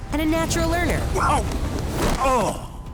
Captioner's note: grunting